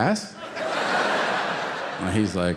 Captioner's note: audience laughing